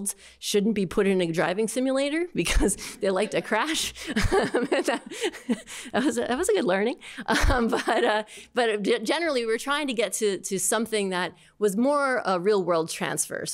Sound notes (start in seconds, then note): 4.0 laughter